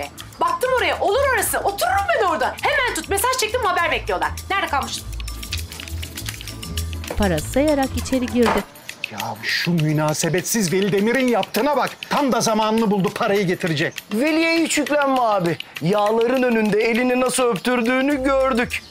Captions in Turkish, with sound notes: Baktım oraya, olur orası, oturum ben orada. Hemen tut, mesaj çektim haber bekliyorlar. Nerede kalmıştım? (Kapı gıcırdama sesi) (Kapı kapanma sesi) Ya şu münasebetsiz Veli Demir'in yaptığına bak. Tam da zamanını buldu parayı getirecek. Veli'ye hiç yüklenme abi, yağların önünde elini nasıl öptürdüğünü gördük.